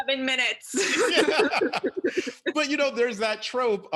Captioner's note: panelists chuckles